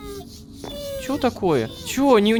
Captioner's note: robodog whines